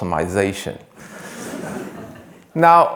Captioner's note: attendees laughing